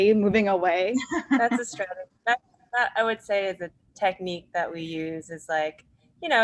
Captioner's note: laughs